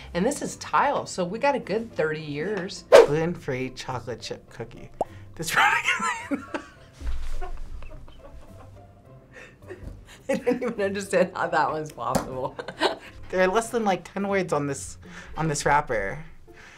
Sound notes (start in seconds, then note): 7.8 laughs